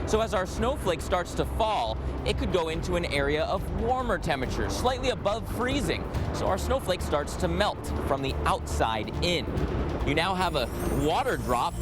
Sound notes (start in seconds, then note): none